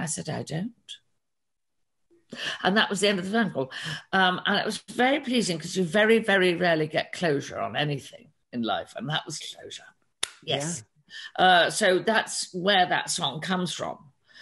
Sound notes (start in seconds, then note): none